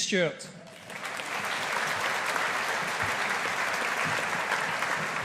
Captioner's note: audience applauding